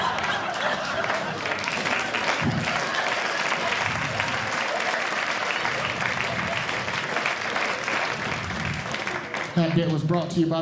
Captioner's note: audience Clapping